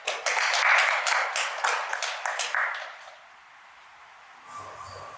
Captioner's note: clapping